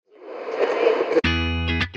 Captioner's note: air whooshing; upbeat music